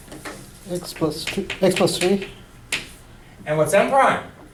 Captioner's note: voiceover